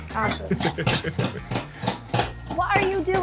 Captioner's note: laughs